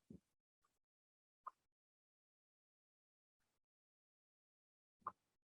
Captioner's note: clicking